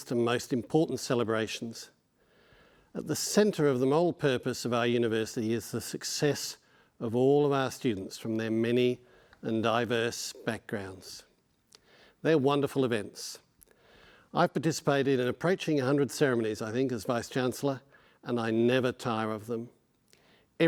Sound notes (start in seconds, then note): none